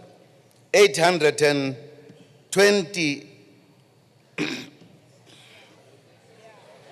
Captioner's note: clears throat